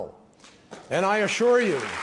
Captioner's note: applause